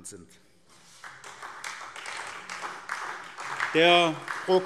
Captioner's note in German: Beifall SPD